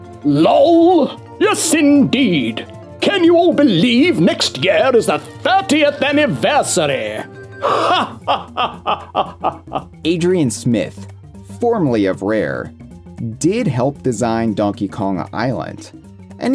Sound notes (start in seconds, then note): 7.6 laughs uproariously